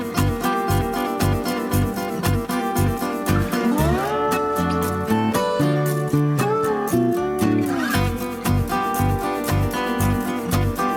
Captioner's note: laugh